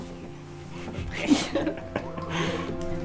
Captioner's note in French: rire